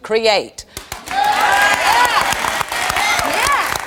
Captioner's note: audience applauding